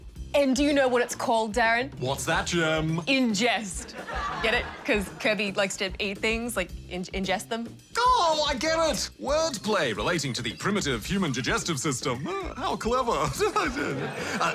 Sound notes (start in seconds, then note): 3.8 laughter; 12.2 chuckles